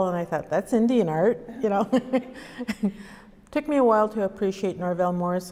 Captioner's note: laughs